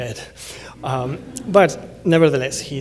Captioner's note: laughter